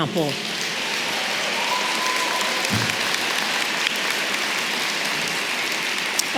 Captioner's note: audience clapping and cheering